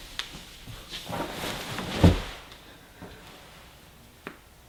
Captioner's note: blanket ruffling